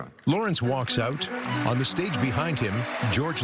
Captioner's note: cheering and applause